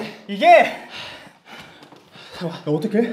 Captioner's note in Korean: 숨을 몰아쉬는 두 사람